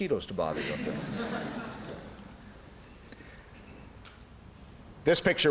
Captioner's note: laughter